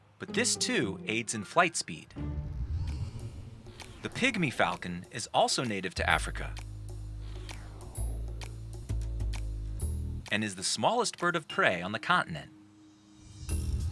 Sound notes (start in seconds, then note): 7.1 air whooshing; 7.5 mysterious music